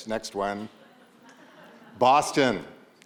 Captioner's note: audience laughs